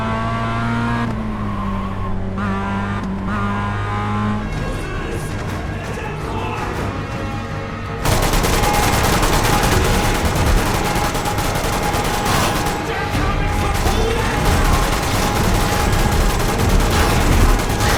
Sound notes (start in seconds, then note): 4.4 yelling; 5.2 gunfire; 13.0 gunfire